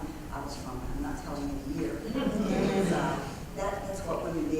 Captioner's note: laugh